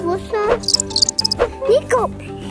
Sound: grasshopper sound

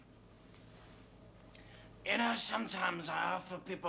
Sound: imitating Dudley Moore in Arthur

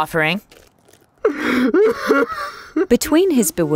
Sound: Abraham sobbing

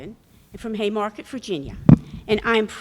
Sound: microphone rattling

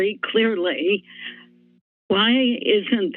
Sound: silence

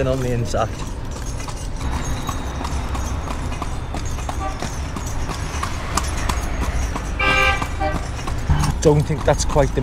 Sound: jingling noise and traffic continues

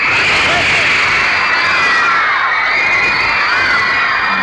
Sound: crowd screaming

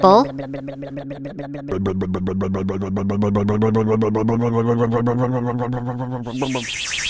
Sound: blub blub blub blub blub blub blub

